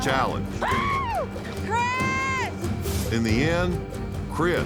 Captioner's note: yelling